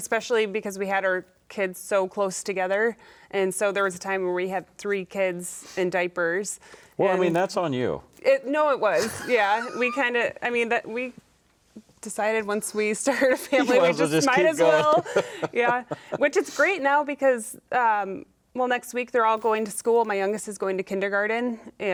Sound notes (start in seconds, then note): 13.3 laughing